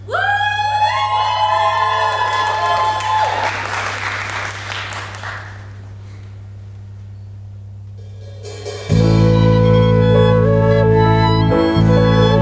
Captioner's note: audience cheers